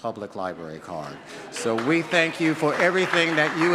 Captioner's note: audience claps